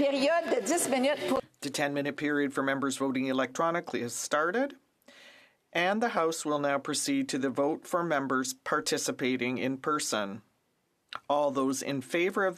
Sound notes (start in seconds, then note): 5.1 speaking French